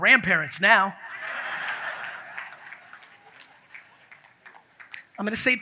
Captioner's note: audience laughs